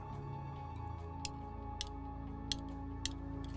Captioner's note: rings clinking